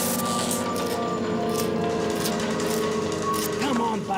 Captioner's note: repeatedly scrapes spoon on wall